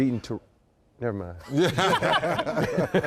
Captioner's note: laughter